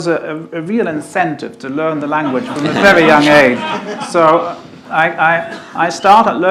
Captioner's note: audience laughter